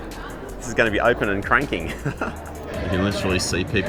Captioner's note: laughs